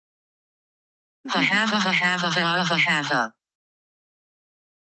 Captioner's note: glitched laughing